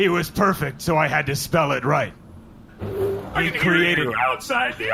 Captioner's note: the door slides open